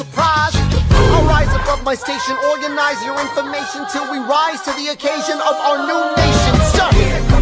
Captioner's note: boom!